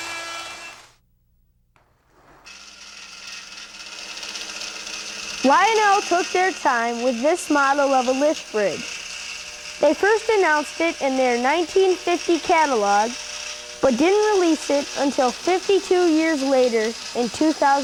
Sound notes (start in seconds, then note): 2.9 mechanical noise